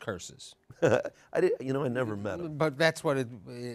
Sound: laughs

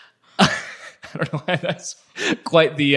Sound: laughs

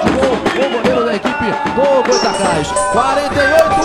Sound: radio commentary

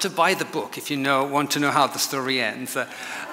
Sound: audience laughs

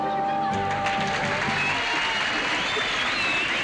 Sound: audience applauding and cheering

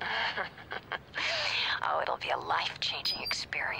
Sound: laughs

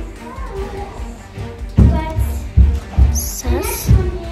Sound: kids chattering

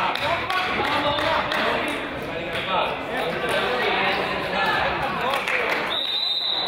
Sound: crowd applauds; crowd applauds

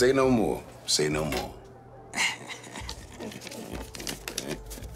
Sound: laughing

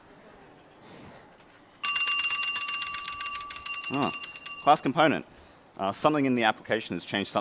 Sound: bell ringing

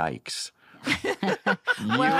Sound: laughter

